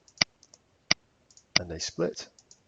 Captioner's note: mouse clicking